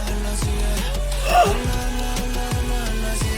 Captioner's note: gasp